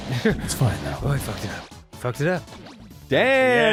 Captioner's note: lightly chuckles; imitates voice